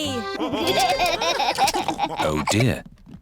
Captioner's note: laughter